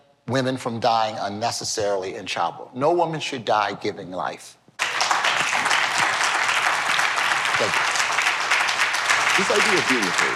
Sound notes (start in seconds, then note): 4.8 applause